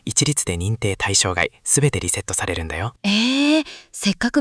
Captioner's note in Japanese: 息をのむ音